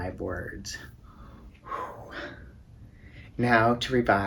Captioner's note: whew!